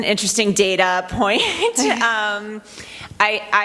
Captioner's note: chuckles